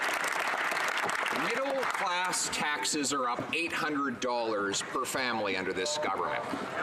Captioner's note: some Applause